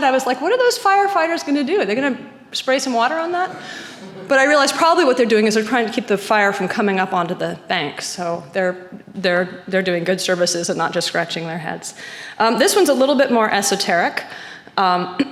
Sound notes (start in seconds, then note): 3.4 audience chuckling